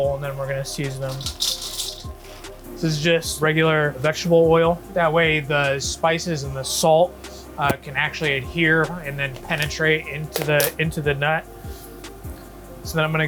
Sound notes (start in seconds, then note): 0.7 peanut crackles; 11.6 gentle spirited music continues